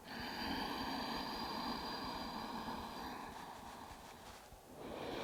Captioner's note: inhaling and exhaling